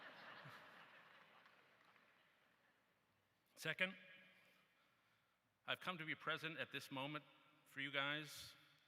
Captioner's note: laughter